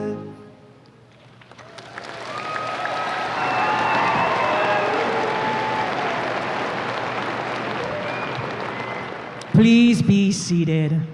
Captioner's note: applause and cheers